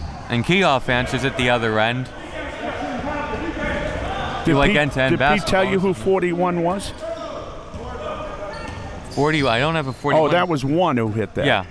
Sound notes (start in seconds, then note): 2.5 audience chattering and yelling